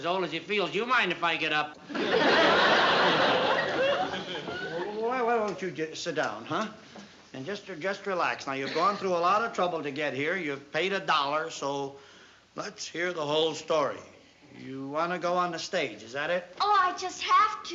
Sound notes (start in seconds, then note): 1.8 laughter